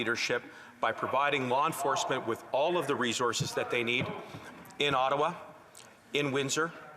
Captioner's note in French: voix de l'interprète